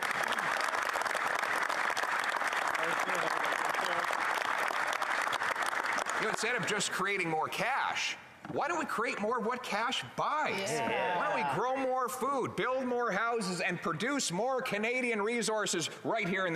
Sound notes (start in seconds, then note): 2.6 applause